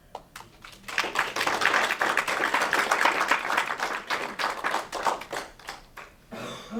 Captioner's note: aplausos